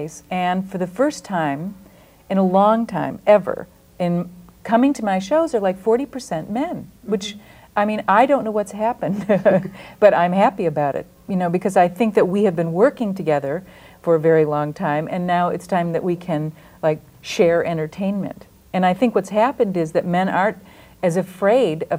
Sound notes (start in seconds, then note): 9.1 laughs